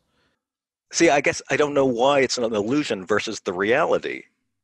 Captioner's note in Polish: none